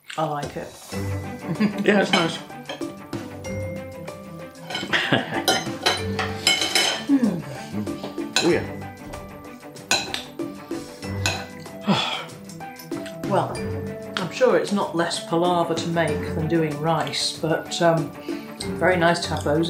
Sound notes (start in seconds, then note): 3.2 background music; 6.8 laffin and cutlery clinkin an clankin